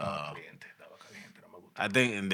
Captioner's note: non-english Speech